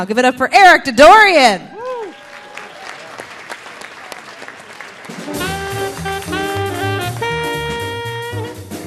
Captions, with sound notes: Give it up for Eric Didorian. (audience cheering) (audience applauding) (delightful music)